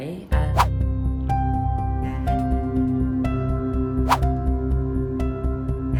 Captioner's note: words whoosh; inspirational music